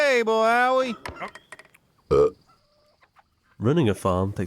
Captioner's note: boards creaking; Abner belches